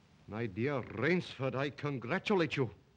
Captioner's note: none